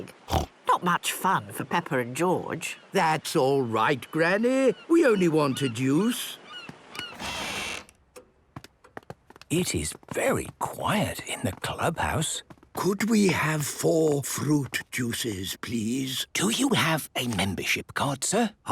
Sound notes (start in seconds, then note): 6.9 door squeaking; 7.1 quiet room; 12.6 speaking quietly